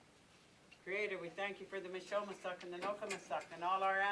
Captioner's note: indigenous language